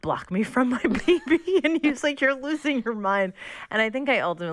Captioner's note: laughter